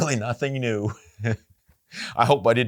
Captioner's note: laughs